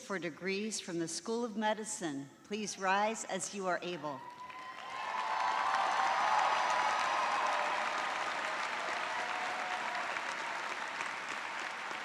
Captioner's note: cheering